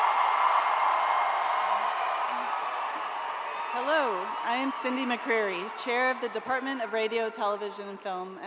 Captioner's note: cheers and applause